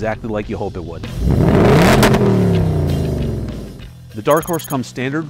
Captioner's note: revs